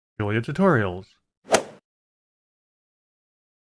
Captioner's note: swoosh